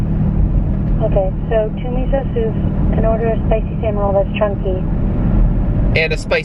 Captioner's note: woman on phone